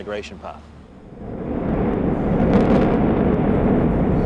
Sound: explosion

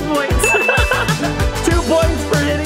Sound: laugh

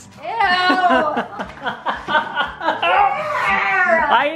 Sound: laughs

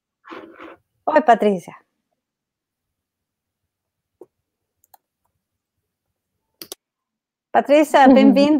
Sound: speaks portuguese

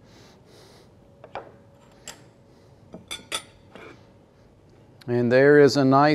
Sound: utensils clanking

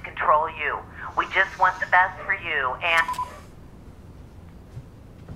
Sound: beep, message turned off

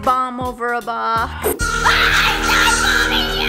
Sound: bird screeching; yelling

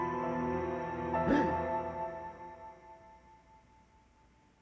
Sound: gasps

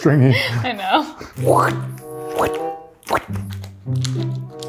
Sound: vocalizes; quirky music

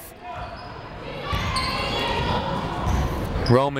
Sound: people shouting in the crowd

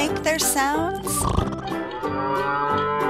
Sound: cow moos; horse whinnies

